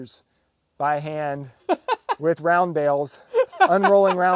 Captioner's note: laughing